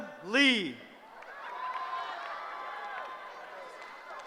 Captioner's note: cheering